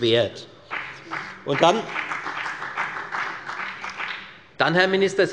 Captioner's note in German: Beifall bei der FDP